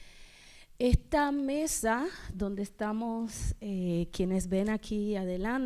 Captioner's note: speaking spanish